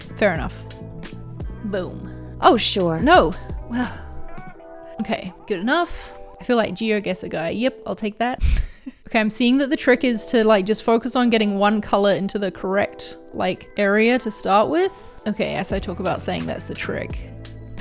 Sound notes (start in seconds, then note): 8.6 laughs